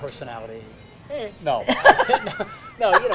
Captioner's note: laughs